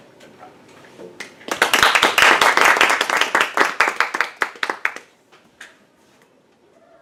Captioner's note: applause